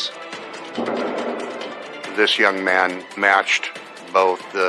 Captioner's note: rumblblining